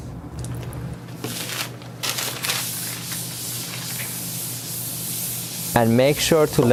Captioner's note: paper towel swooshing